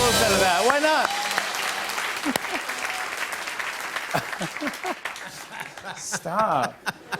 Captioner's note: cheers and applause; laughter